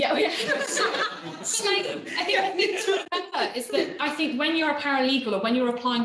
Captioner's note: laughing